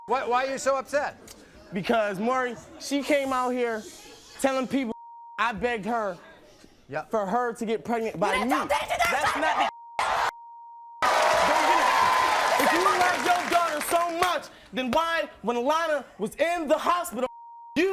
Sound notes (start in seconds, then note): 4.6 beep; 8.6 beep; 8.6 screaming; 17.3 beep